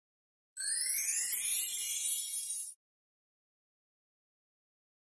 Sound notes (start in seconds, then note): 0.6 magical twinkling